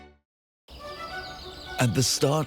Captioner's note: birds singing; grandiose music